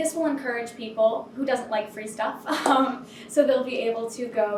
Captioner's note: laughing